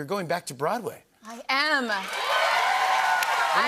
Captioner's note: cheers and applause